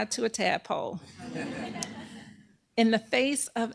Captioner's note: laughter